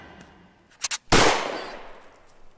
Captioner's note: gunshot